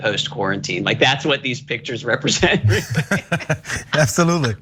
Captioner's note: laugh